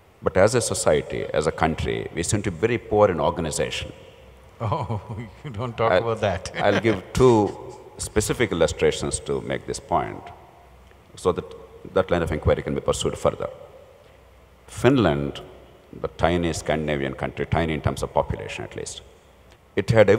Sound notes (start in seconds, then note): 4.6 laughs